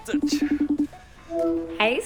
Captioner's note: phone ringing